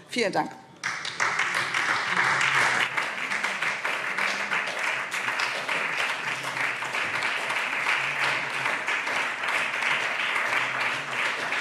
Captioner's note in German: Beifall SPD